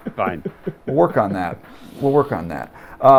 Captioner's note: laughs